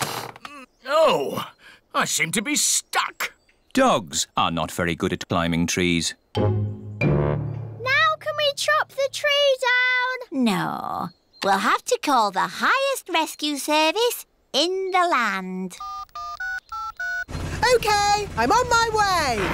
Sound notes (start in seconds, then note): 15.8 dialing